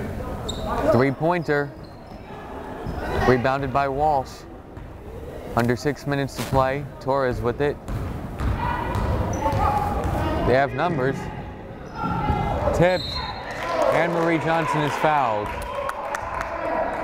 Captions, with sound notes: Three pointer, rebounded by Walsh. Under six minutes to play, Torres with it. They have numbers. (whistle blows) Tipped. Anne-Marie Johnson is fouled.